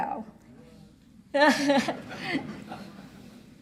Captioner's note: laughs